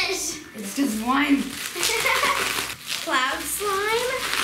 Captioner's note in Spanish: risas